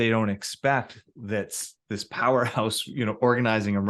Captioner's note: chuckles